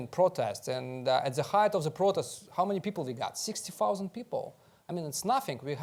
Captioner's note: none